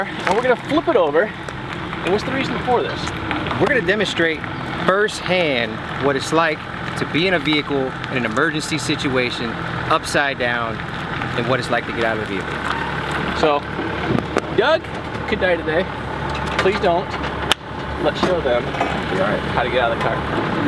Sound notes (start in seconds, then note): 17.5 hands clapping